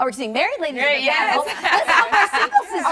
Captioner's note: laughs